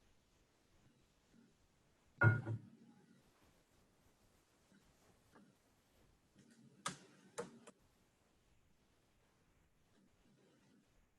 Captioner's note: silence